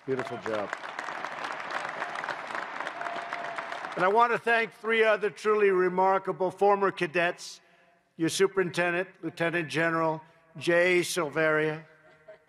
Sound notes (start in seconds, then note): 0.0 applause